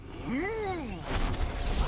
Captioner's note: nonverbal grunt as interjection